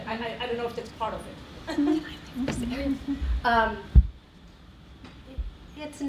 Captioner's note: whispering